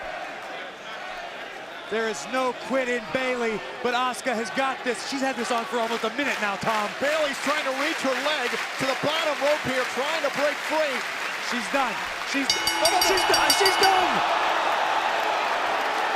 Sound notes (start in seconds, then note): 10.7 bell ringing